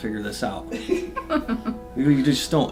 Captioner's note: laughs